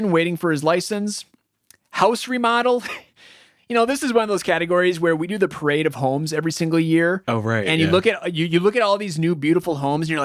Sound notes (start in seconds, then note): 3.1 laughs